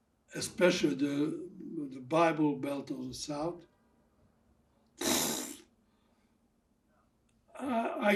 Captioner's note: throat sound